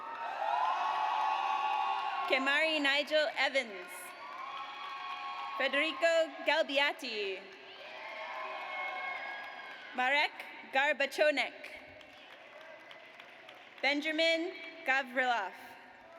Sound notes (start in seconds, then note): 0.0 audience cheers; 4.2 audience cheers; 7.7 audience cheers; 11.9 audience applauds; 16.0 audience applauds